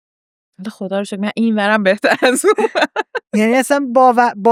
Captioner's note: laughs